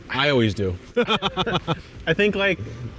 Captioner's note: both laugh